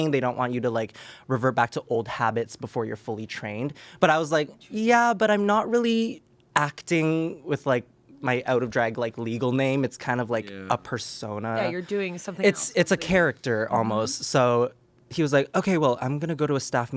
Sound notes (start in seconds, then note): none